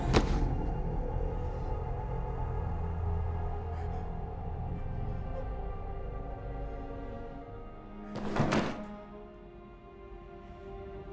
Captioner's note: engine revs